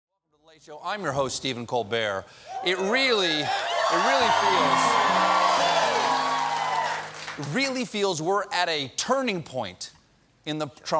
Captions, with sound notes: LADIES AND GENTLEMEN, WELCOME TO "THE LATE SHOW." I'M YOUR HOST STEPHEN COLBERT. ( CHEERS AND APPLAUSE ) ( PIANO RIFF ) IT REALLY FEELS LIKE WERE AT A TURNING POINT IN THE TRUMP